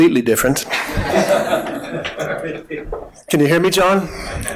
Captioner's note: audience laughing